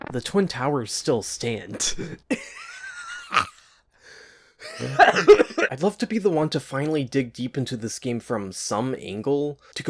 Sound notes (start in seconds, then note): 2.3 laughing; 4.8 coughing